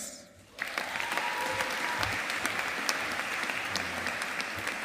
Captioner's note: audience applauding